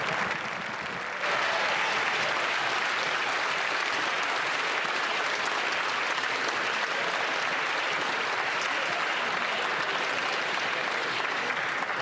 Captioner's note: applause